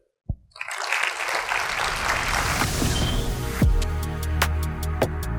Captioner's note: audience clapping